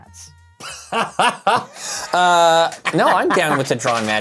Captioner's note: laughs